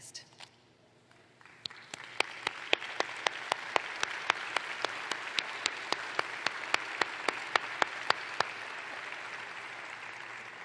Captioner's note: applause